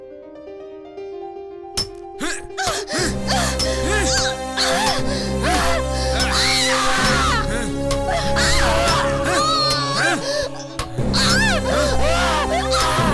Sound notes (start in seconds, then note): 0.0 piano Plays; 1.9 hammer hits the nail and Vampire cries in agony